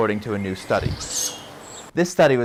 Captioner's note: owl sounds